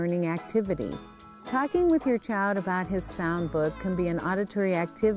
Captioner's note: cat meows